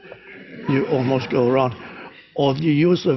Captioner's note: crowd laughs